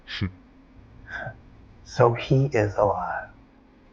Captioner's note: scoffing